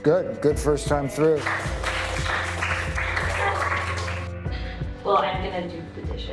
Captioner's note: applause